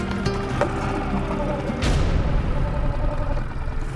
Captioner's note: engine purrs